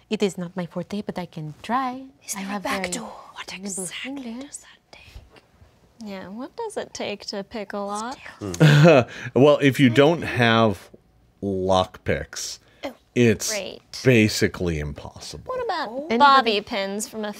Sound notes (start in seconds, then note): 8.4 laughs